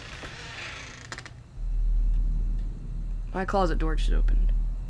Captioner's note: creaking